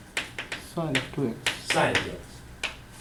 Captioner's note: voiceover